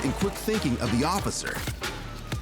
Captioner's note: none